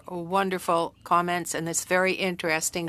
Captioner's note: speaking French